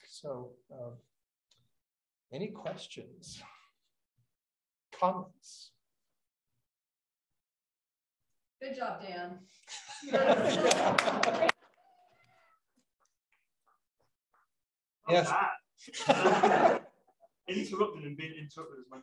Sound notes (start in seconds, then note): 9.7 laughs; 10.4 clapping; 15.8 laughs